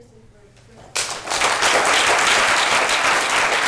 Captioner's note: applause